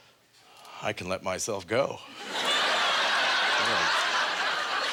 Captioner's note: audience laughter